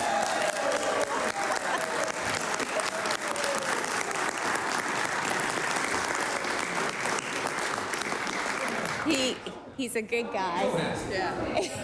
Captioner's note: applause